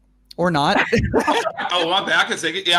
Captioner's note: all laughing